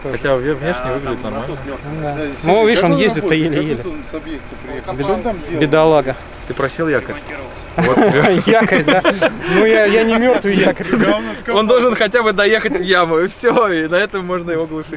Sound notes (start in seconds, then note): 11.9 everyone laughs